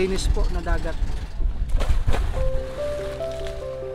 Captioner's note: water splashes